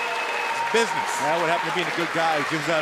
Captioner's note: cheers & applause